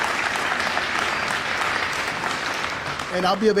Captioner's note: applause